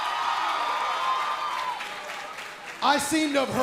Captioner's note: cheers & applause